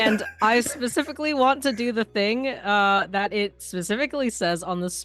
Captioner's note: everyone laughs, clap